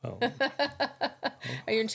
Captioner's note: laughing